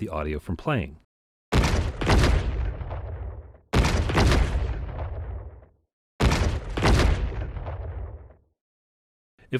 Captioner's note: explosion Sounds Play